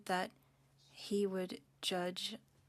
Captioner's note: speaking French